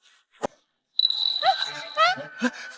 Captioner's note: frightened/hurried voice